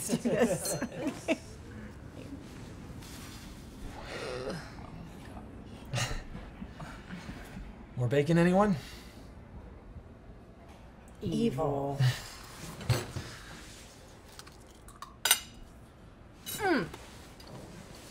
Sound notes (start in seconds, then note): 0.0 all chuckle; 4.0 all groaning